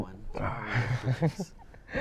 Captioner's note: chuckles